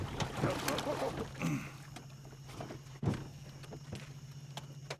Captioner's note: splashing and grunting